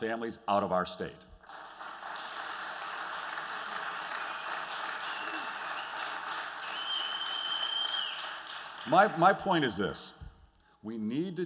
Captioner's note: applause